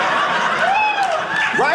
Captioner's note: audience cheering; audience laughing